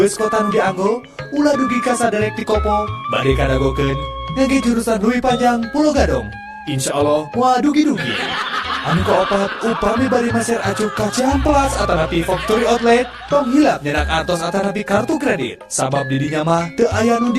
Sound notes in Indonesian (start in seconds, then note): 8.0 tertawa